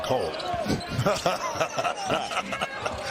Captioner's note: laughter